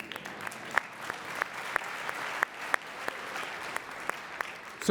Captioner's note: audience applauding